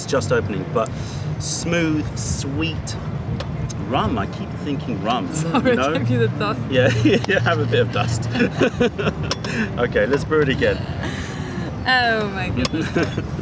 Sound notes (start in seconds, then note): 8.2 laughter